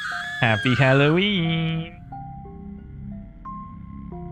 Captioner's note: screaming